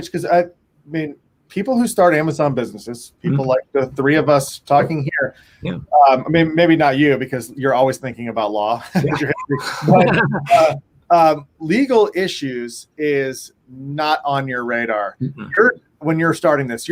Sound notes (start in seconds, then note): 8.9 all laughing